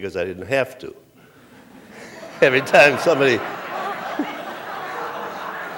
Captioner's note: laughter